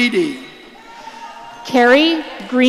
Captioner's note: audience cheering